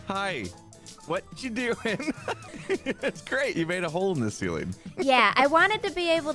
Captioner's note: laughs